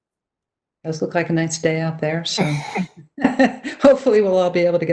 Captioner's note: chuckles